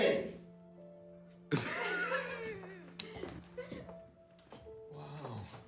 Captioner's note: Anders laughs